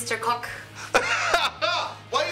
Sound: laughing

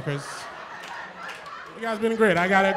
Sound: laughter

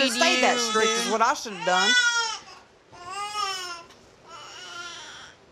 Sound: baby crying

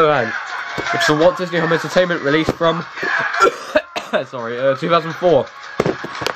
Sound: loud painful cough

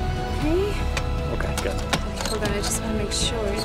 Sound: none

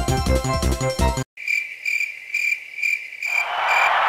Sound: crickets

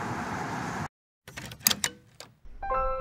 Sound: door Opening

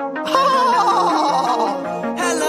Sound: horse laughter

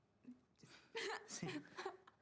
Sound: Lana laughs

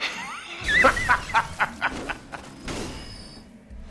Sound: laughing

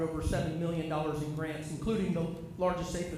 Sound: off microphone

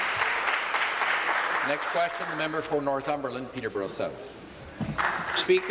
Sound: applause

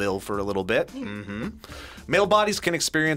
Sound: laughs

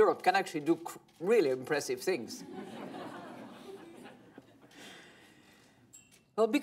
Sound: laughter

